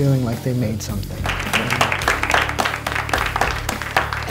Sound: applause

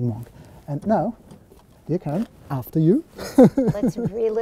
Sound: laughing

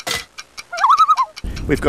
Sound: loon call

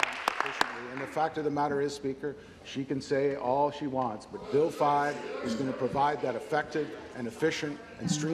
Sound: applause

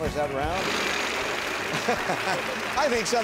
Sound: wheel spinning

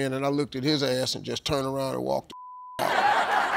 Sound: beep

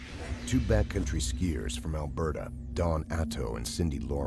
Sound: voiceover

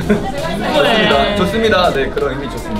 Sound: everyone crying

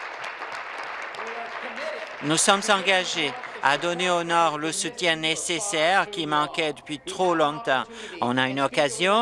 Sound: applause

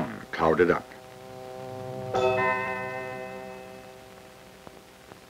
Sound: musical chime when one flask was highlighted

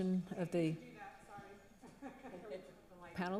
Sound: laughs

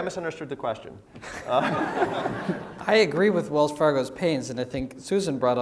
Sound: laugh

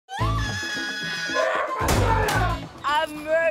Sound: screaming

